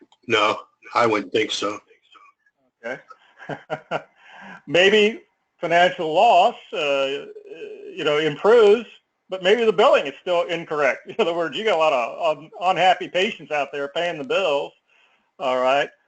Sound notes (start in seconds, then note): 2.8 laugh